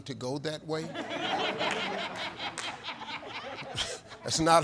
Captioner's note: audience laughs